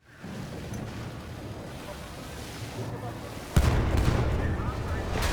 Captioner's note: gun fires